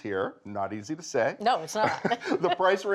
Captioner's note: both chuckling